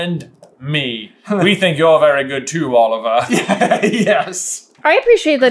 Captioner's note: giggles